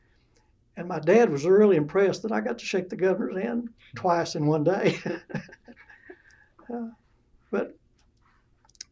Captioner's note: laughs